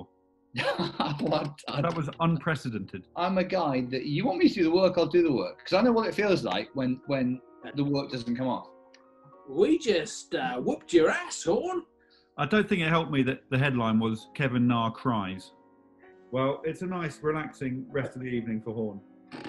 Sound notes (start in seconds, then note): 0.6 laughs; 8.9 american accent